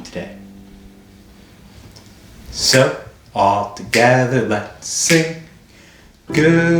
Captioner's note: snapping